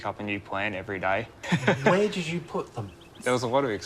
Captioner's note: laughs